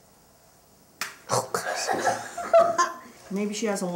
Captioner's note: laughter